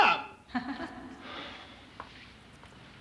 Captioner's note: venus laughs